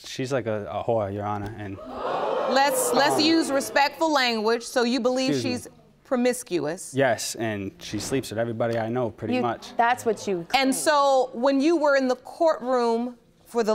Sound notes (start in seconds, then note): 1.8 audience gasps